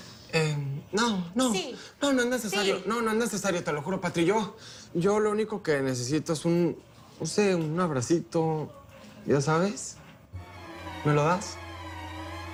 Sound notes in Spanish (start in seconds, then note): none